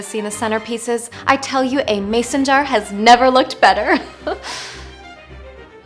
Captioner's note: laugh